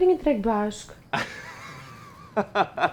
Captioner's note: laughs